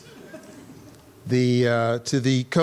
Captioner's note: audience laughing